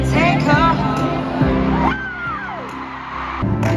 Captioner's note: screaming over the note change in the 1 again